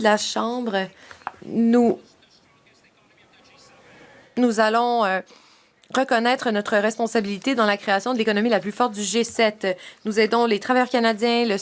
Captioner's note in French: voix de l'interprète